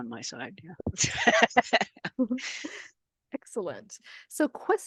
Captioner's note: laughs